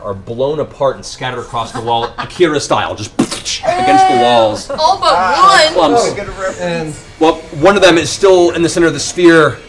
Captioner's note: splat